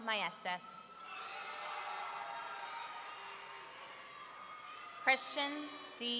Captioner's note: audience cheering